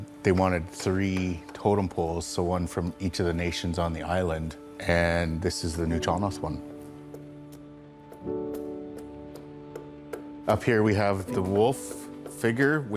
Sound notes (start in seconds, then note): 8.4 soft music; 9.6 tool softly tapping